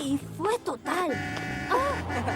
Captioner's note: horn honking; gasps